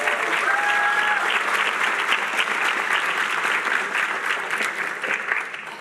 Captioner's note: applause